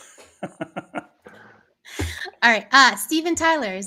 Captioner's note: laughing